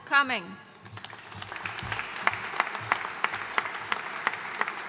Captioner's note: audience applauding